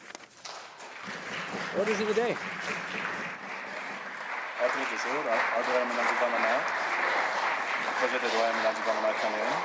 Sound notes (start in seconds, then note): 3.7 applause